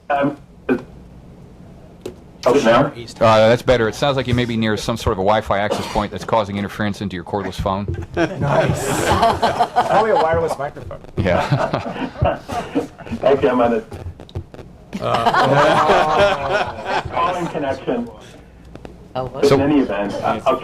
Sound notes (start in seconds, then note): 8.0 laughter